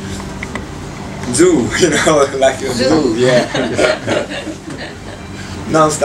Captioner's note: laughs